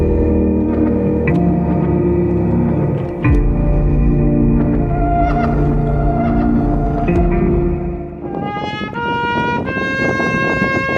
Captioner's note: wind noise